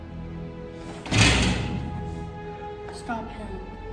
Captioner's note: gate rattles